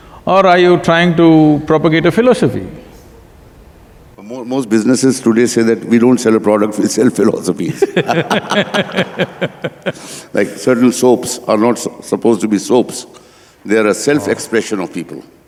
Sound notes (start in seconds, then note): 7.6 laughter